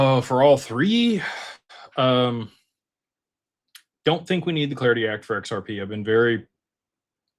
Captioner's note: sighs and gasps